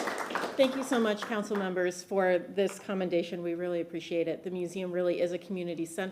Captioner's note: applause